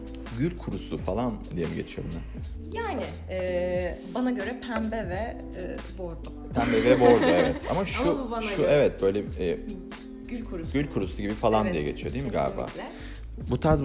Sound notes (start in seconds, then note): 6.6 laughs